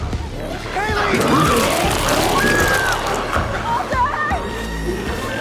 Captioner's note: Chalee screams